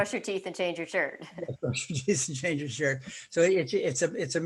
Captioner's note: laughing